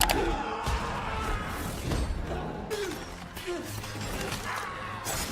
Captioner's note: victim screaming